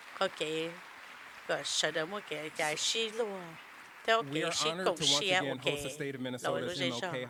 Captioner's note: applause